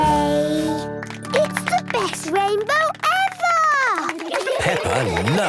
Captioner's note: laughter